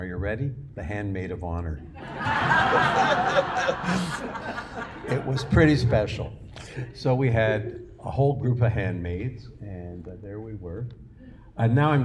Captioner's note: laughter